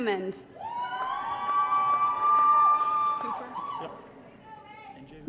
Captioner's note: applause & Cheering